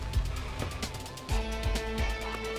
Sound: car door opens

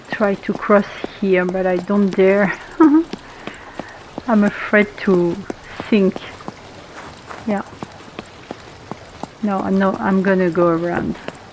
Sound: laughs

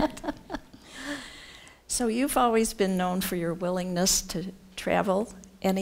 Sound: laughs

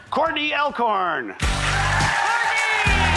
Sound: cheers and applause

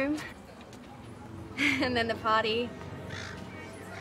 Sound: chuckles

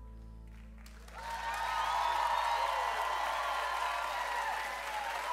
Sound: audience cheers

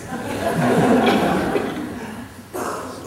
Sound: laughter

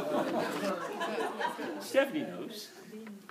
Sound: group laughs

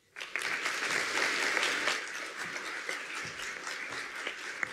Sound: audience applauds

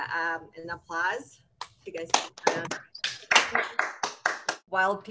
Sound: applause

